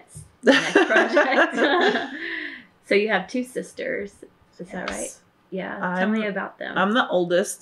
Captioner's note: laughter